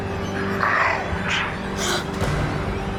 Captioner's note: Andrew gasps